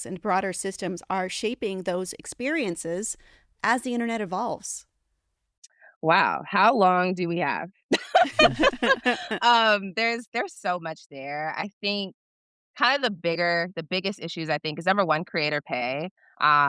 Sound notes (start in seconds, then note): 7.9 chuckle; 8.0 laughs